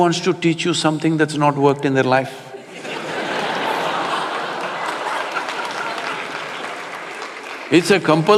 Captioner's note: laughter